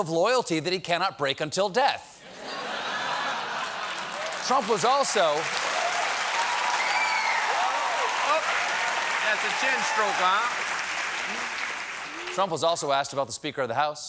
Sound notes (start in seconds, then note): 3.2 cheers and applause; 4.7 laughter